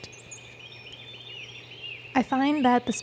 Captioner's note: birds chirping